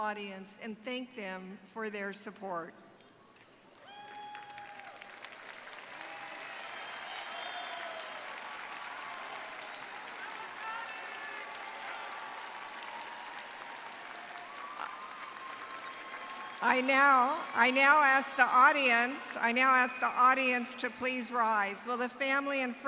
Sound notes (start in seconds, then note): 8.7 applause